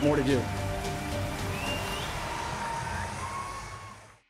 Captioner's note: cheering